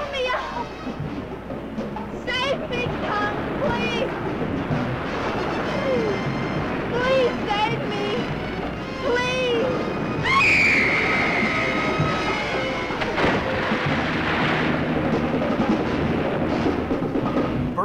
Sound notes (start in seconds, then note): 5.3 tense music; 10.2 screaming; 13.3 water splashing; 14.8 tense music